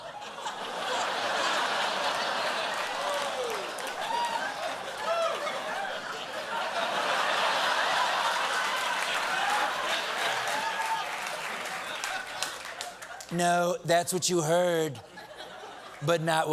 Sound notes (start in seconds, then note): 2.5 laughter; 6.8 applause